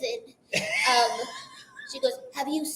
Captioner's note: laughs